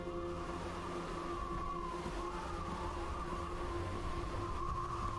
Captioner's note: wind howling